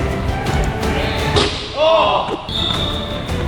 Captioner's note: ball bounces; ball hits rim; whistle blows